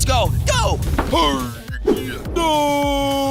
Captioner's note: Snowball grunts